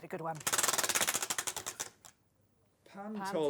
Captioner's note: ratcheting